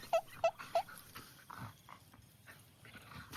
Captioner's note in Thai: เสียงหัวเราะ